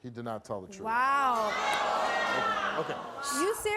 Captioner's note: audience gasps